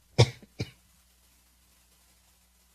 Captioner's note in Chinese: 咳嗽聲